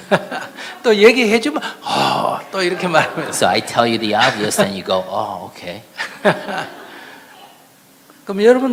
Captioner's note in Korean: 스님과 청중 웃음; 스님과 청중 웃음